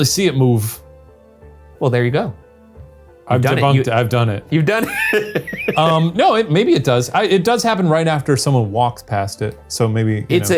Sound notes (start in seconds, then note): 1.2 brooding music; 4.7 laughing